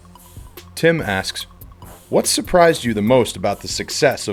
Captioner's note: voiceover